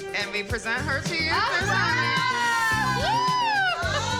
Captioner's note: cheering